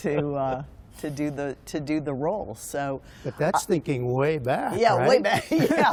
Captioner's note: laughter